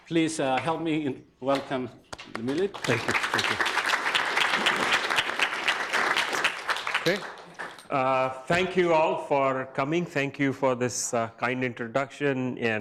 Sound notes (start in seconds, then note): 3.9 audience applauds